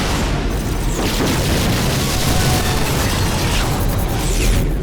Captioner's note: gunfire; explosion